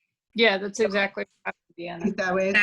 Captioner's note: voice breaks